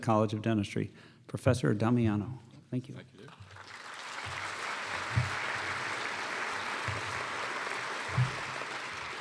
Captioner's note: applause